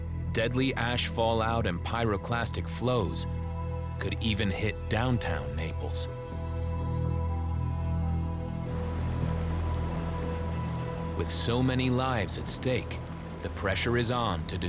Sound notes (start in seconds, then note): 8.8 bubbling